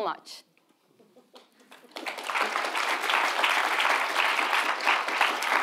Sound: audience applauding

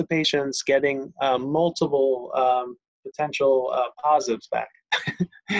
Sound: laughs

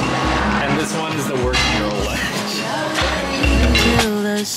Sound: laughs

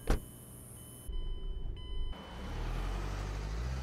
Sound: seatbelt safety alarm

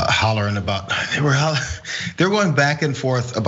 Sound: laugh

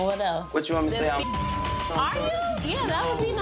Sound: beep

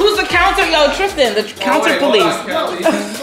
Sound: laughs

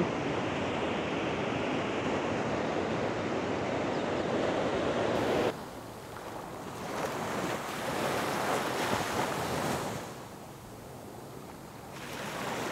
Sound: wind blowing

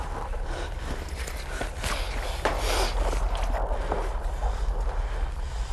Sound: radio interference crackles

